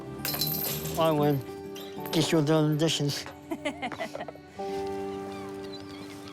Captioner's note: laughs